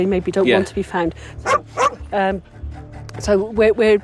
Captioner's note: Amber barking